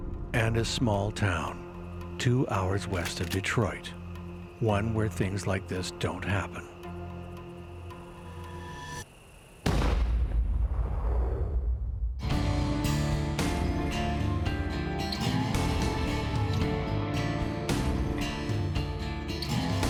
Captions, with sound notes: And his small town, two hours west of Detroit, one where things like this don't happen. (gun fires) (slow rock music)